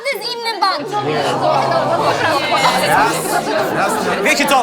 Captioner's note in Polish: odgłosy oburzenia